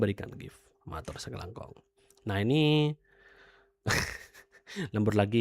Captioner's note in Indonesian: tertawa